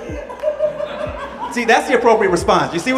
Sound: audience laughing

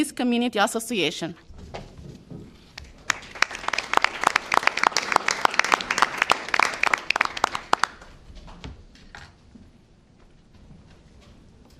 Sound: applause

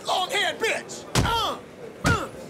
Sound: fist hitting body; grunting

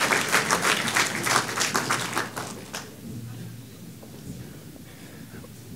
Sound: audience clapping

